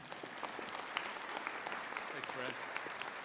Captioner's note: audience applauding